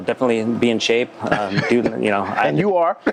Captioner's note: laughter; laughs